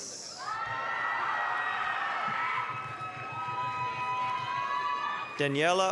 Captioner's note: applause, cheering